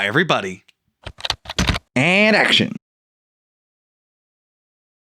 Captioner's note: typing